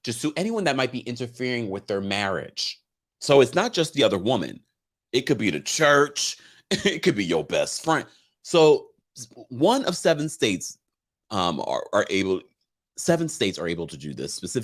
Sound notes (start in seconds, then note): 6.9 laughs